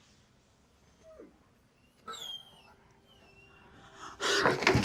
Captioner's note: dog whining